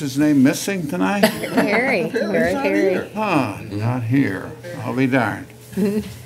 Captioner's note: laughter & unintelligible comments